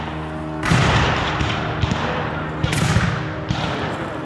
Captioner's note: guns fire